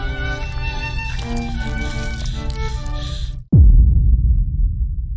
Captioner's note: panicked breathing